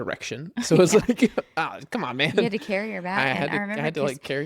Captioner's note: laughs